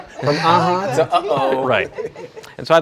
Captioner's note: laughs